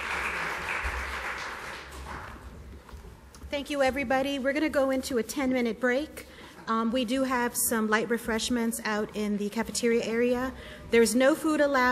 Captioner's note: applause